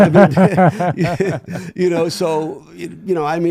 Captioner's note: laughing